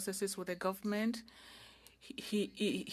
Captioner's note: speaking French